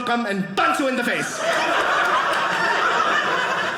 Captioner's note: audience laughing